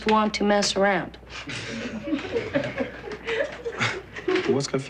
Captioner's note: light laughter